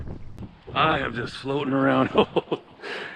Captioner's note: laughing